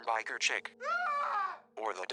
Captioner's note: phone ringtone shrieks